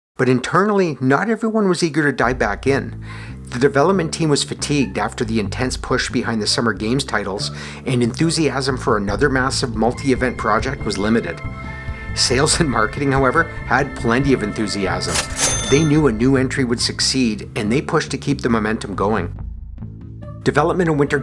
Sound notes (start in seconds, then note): 14.9 cash register